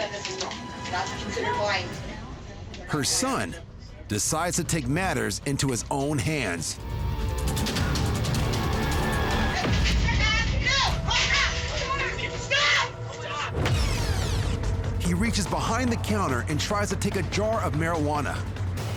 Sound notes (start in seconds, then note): 6.6 tense music; 8.7 clamoring